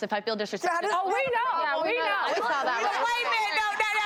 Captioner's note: audience laughs